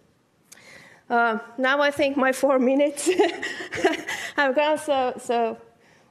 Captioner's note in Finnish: chuckles